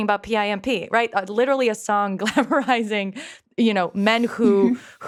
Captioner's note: laughs